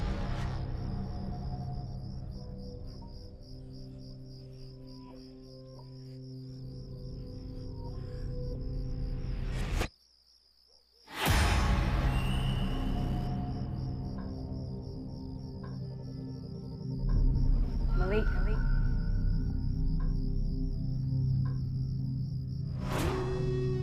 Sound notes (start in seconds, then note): 0.0 tense suspenseful music continues; 7.6 slow haunting music; 11.8 dramatic swoosh; 15.1 slow haunting music; 19.9 echos; 20.6 tense eerie music